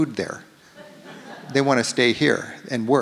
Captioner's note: audience laughs